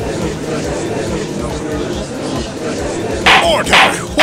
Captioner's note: gallery chattering